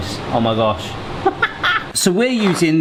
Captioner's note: laughing